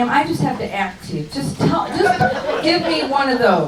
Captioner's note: crowd laughs